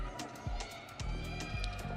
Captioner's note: audience cheering